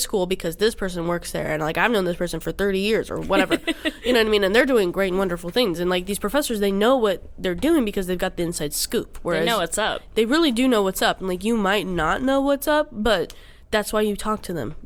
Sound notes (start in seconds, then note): 3.2 laughs